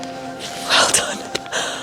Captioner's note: whispers